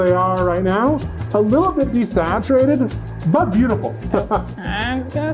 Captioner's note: laughing